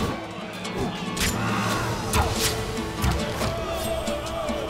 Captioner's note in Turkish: Ok sesleri